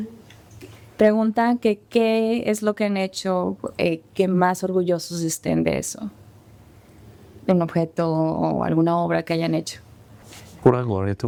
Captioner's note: translator and speaking spanish